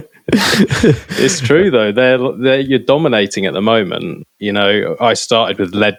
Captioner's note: laughter